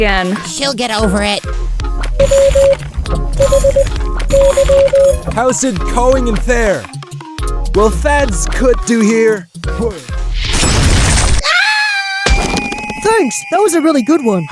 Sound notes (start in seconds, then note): 5.3 thick accent; 10.4 smash!; 11.4 scream; 14.1 scream